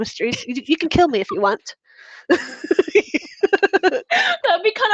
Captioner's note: all laughing